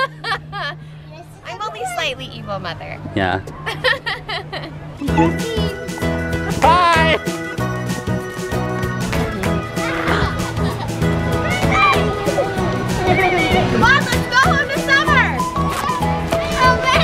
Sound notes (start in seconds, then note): 0.2 laughing; 6.1 cheerful music; 9.3 children laughing and yelling